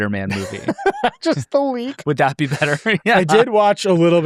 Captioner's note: laughs